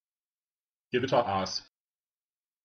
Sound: fast Pronunciation

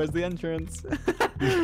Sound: laughs

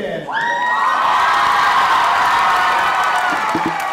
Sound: cheers

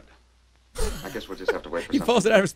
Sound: laughs

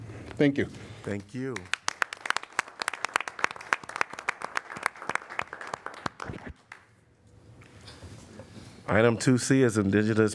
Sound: applause

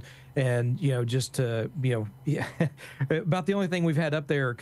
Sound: laughing

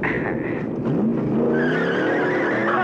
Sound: tires screech

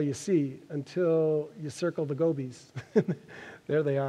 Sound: laughs

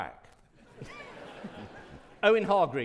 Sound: audience laughing

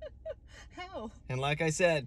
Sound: laughs

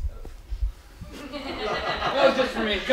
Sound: audience laughing

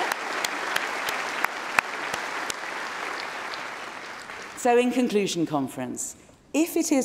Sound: cheering & Applause

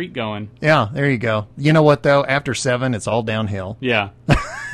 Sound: laughs

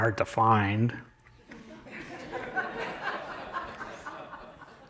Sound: laughter

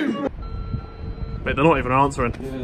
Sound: beep

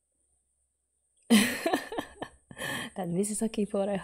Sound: laughs

